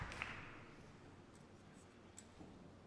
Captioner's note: applause